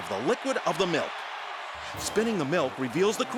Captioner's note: crowd cheering